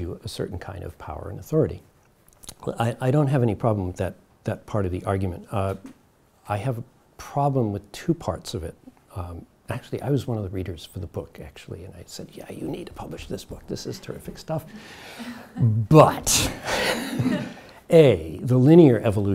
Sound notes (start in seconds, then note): 16.6 audience laughs